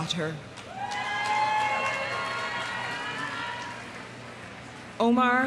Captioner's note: audience applauding; audience cheering